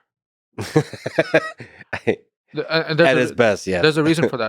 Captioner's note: Lex laughing